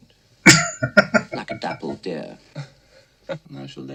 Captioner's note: laughing